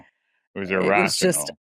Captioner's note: laughs